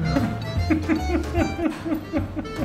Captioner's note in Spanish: risas